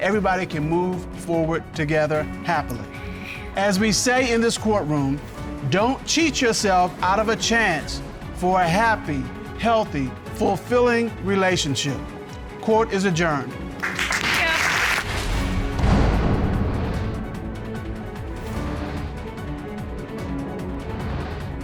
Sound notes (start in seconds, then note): 13.8 audience applauds